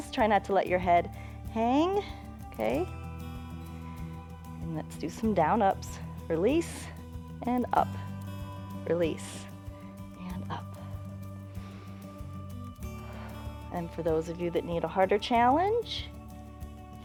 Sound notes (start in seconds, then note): 9.5 inhales and exhales